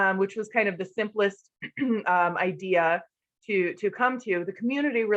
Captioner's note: cough